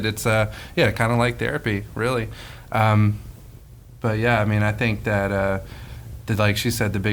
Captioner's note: none